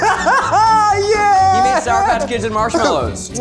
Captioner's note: laughs